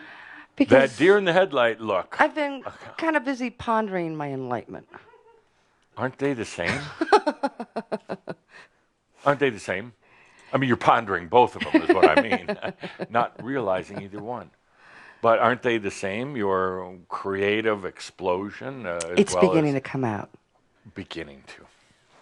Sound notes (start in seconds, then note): 6.7 she chuckles; 11.6 she chuckles again